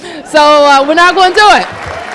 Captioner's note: applause